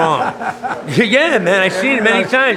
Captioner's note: interviewer laughing